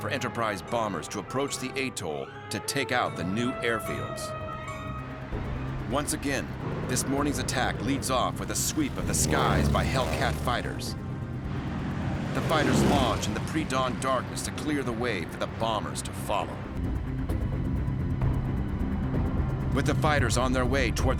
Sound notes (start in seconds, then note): 10.2 engine roaring